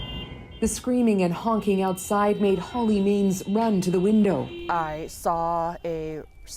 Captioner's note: horns